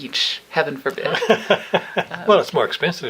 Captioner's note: laughing